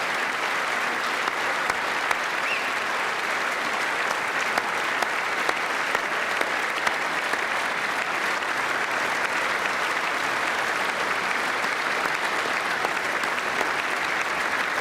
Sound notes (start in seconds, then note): 1.5 applause